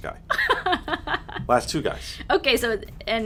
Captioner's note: laughing